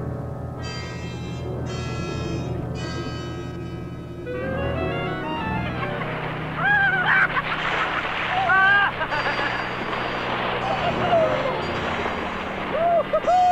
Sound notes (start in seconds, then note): 6.6 all laughing; 10.6 all cheering